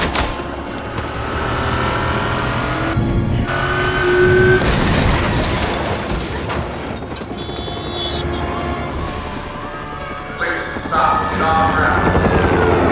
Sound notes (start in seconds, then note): 10.2 officer on megaphone